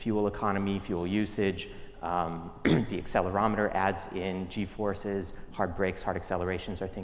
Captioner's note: cough